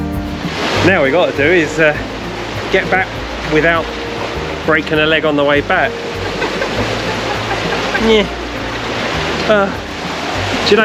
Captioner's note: laughs